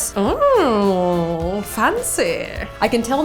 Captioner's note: posh accent